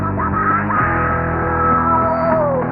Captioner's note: screeching